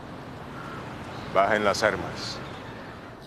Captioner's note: speaking Spanish